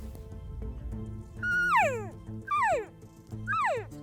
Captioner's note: cow elk calling